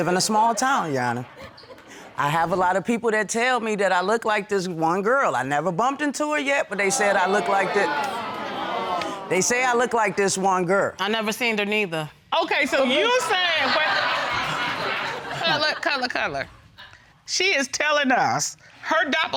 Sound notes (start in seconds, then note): 6.8 audience exclaims; 12.9 laughter